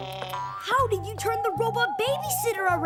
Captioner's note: huffs